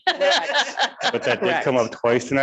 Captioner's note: people laugh